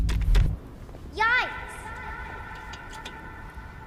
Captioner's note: echoing